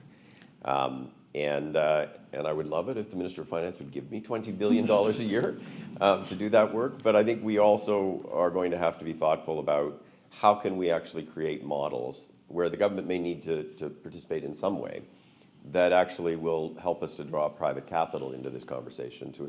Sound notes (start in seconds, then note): 4.7 laughter